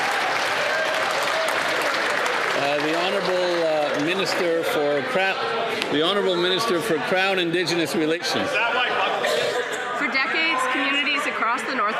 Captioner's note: some Applause